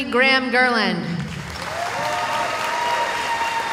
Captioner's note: cheering